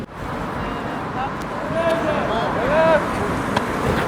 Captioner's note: aggresive shouting